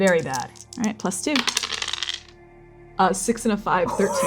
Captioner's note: dice rolling; shaking dice